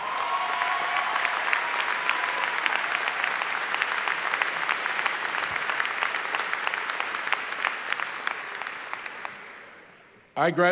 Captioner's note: applause